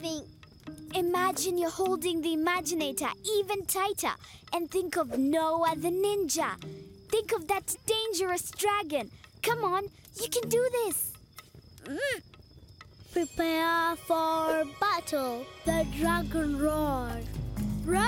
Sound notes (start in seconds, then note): 11.1 grunting